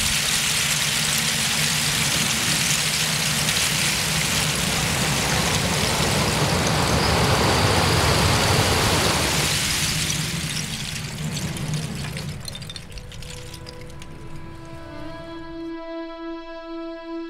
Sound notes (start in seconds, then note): 5.4 oyster shells rumbles; 13.6 solemn music continues